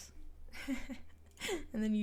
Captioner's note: snicker